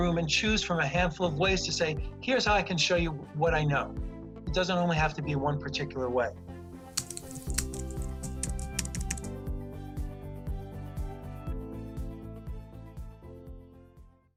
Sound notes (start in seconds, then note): 6.7 upbeat music playing; 7.0 keyboard keys clatter